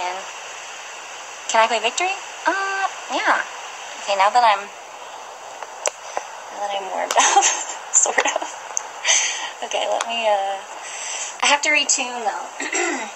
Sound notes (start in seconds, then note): 0.0 background ocean sounds; 7.1 laughs; 12.6 clears throat